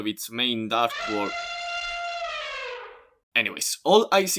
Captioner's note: elephant sound